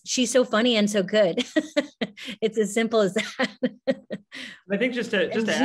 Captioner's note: laughing